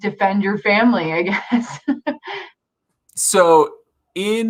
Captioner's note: chuckles